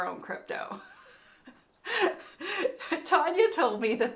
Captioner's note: woman laughing